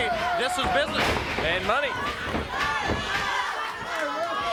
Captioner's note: body thudding